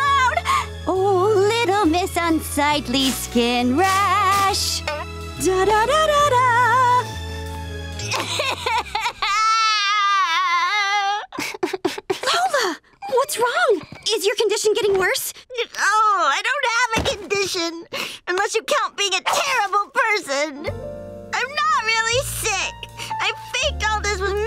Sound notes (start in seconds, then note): 4.9 scatting; 8.1 crying